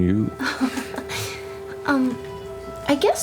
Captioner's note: laughs